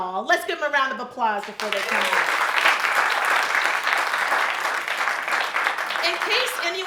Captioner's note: audience applauding